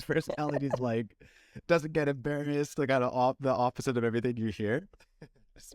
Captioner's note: laughter